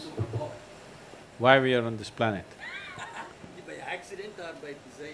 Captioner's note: laughter; 笑聲